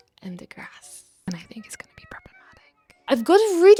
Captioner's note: whispers quietly